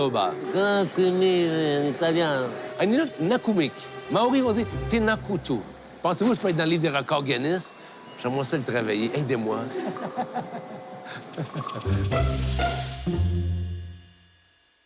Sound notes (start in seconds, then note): 9.7 Rires